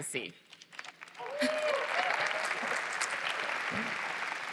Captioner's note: applause